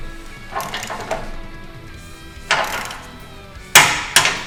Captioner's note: clicking of wrench